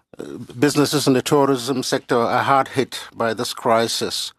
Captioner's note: speaking French